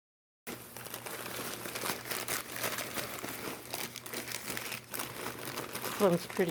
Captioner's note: crinkling of wrapping paper